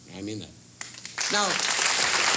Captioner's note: applause